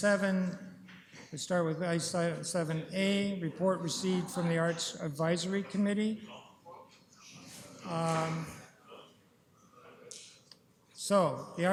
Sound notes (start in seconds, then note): 6.2 chatter